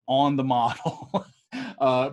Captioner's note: laughs